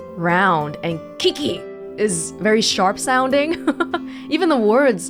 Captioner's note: chuckles